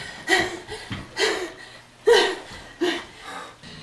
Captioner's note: panting